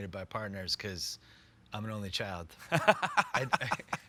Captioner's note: laughs